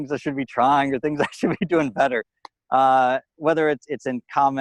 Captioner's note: chuckling